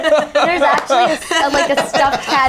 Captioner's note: laughing